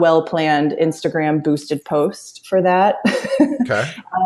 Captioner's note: laughs